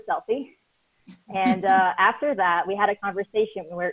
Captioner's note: laughs